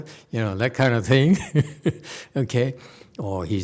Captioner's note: laughs